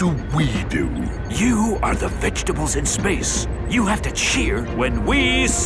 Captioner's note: whispering